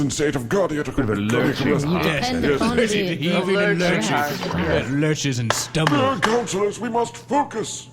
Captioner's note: bangs gavel